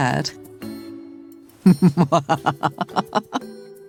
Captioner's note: laughs